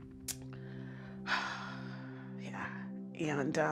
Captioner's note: exhales heavily